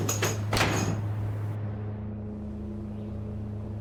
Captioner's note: door slams; intense music